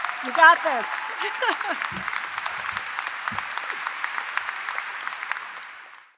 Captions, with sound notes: You got this. [CHUCKLES] [APPLAUSE]